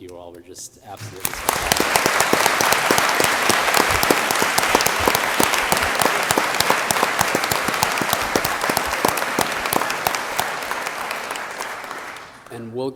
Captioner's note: applause